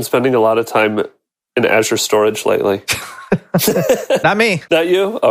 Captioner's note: laughing